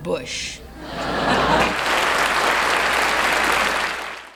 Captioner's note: audience laughing